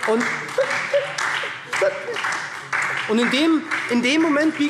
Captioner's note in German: Beifall SPD